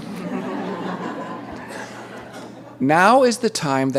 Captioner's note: laughter